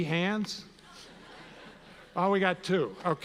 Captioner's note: audience laughs